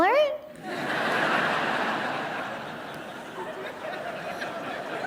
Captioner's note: audience laughing